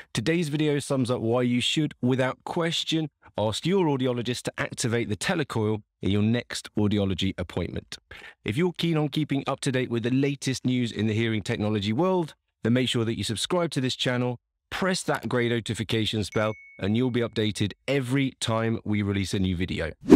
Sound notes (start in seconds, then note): 16.3 bell ringing; 20.0 lines whooshing